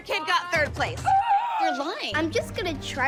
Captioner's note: gasps